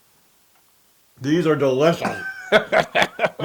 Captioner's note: laugh